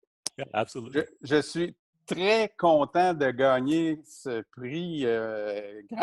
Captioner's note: speaking in foreign language